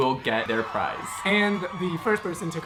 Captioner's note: audience applauding